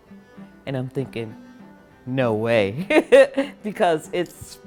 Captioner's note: laughs